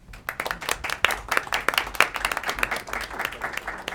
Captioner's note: clapping